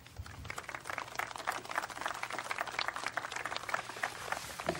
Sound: applause

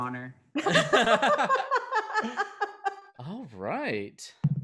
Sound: group laughs

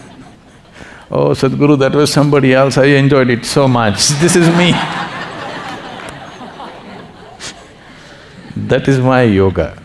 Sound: laughter; laughter

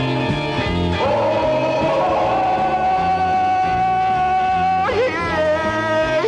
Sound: Tarzan yell

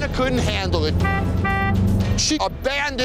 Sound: car honking

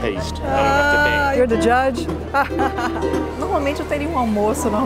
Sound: laughs

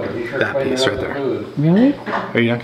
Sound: none

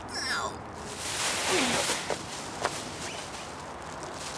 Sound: bag rustles; Saffron groans

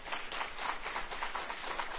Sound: applause

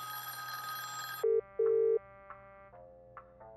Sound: phone waiting; phone ringing

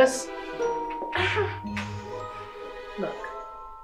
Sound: female captive moans

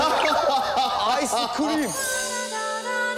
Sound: crazy laugh

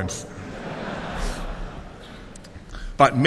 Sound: laughter

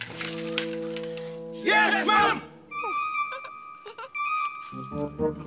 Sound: giggles

